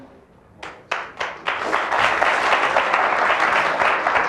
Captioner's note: audience applauds